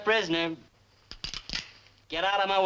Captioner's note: guns cocking